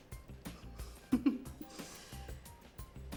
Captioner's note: chuckles